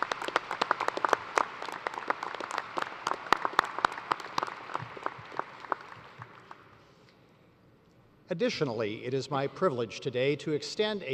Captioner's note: applause